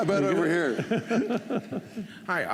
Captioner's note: laughter